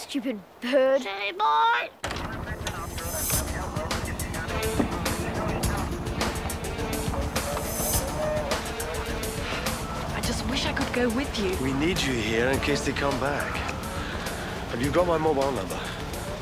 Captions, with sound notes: Stupid bird. - Silly boy. (muffled dispatching) - I just wish I could go with you. - We need you here in case they come back. Have you got my mobile number?